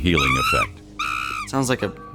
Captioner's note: monkeys screaming